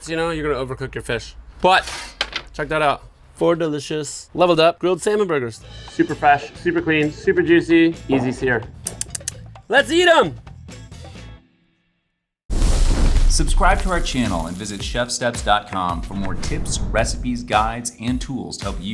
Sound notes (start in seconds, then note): 6.0 upbeat music; 8.8 lips smacking; 11.3 upbeat music ends; 12.5 fire rumbling